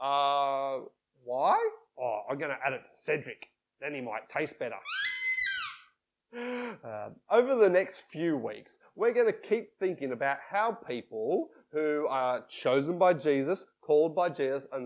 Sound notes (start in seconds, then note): 4.8 squeaks